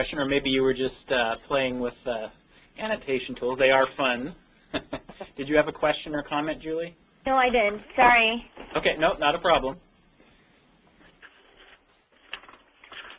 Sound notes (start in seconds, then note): 4.7 laughs